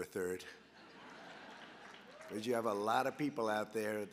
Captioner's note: laughter